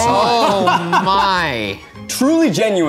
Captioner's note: laughing